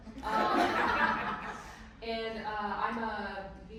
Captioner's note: everyone laughing